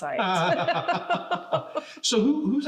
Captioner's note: laugh